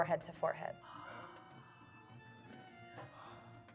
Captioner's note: gasping